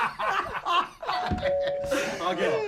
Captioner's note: laughter; door bell